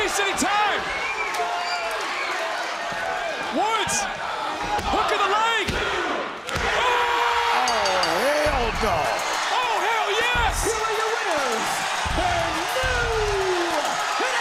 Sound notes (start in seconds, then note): 7.6 crowd cheers; 9.8 bell rings